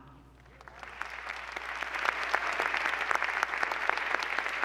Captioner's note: applause